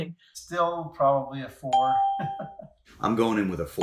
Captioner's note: laughs